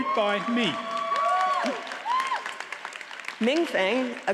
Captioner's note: audience cheers and applauds